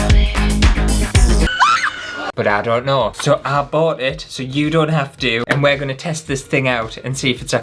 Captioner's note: screaming